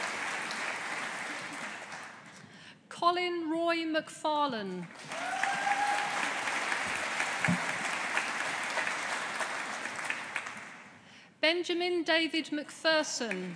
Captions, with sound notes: Colin Roy MacFarlane. (AUDIENCE APPLAUDING) Benjamin David MacPherson.